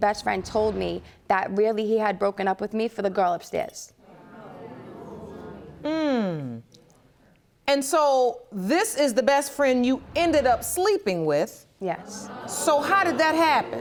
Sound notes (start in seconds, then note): 4.1 audience murmurs